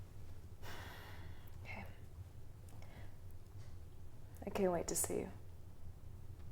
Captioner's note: sighs